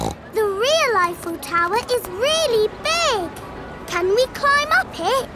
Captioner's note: snorts